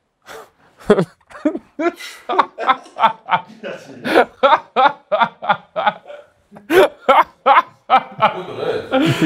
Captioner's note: laughs